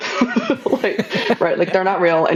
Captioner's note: laughing